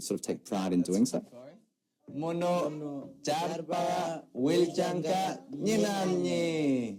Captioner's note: foreign language